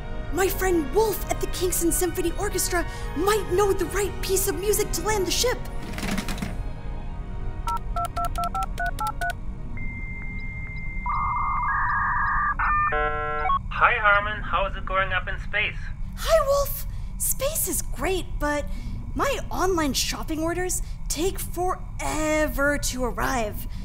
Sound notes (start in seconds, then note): 7.6 boop boop boop; 11.0 dial-up modem connecting